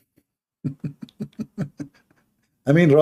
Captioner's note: Ketawa